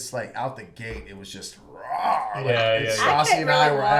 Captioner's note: growls